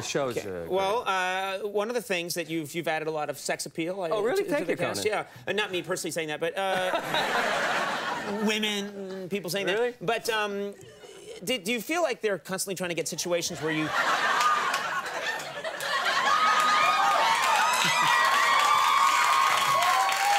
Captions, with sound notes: No, no, no. The show's great. Well, one of the things that you've added a lot of sex appeal to the cast. Oh really, thank you Conan. Yeah, not me personally saying that, (audience laughing) but women, people saying that. Really? But did you feel like they're constantly trying to get situations where you (audience guffawing) (audience applauding)